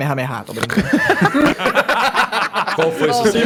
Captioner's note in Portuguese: Risos